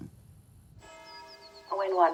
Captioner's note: bell ringing